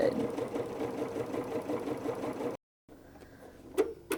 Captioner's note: sewing